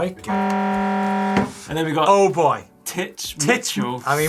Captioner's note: buzzer